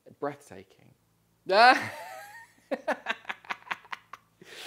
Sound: laughs

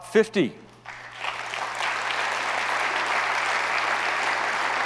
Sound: audience applauds

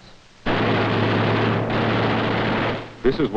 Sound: gunfire

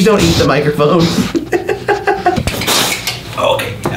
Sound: laughs

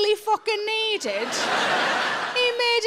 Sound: audience laughs

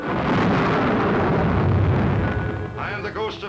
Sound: eerie booming

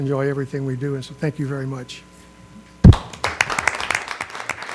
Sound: applause

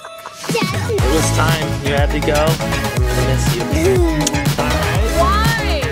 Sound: laughing; kisses

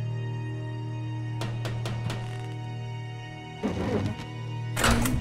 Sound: knocks at door

